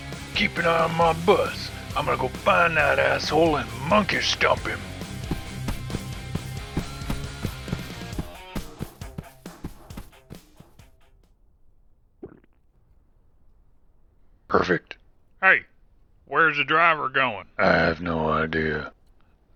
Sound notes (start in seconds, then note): 5.2 feet running